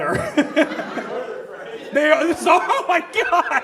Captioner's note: audience laughs